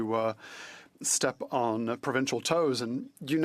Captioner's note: speaking French